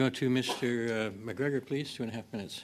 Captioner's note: speaking French